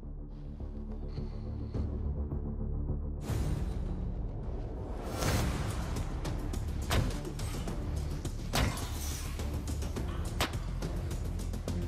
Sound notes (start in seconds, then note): 6.2 blade impacts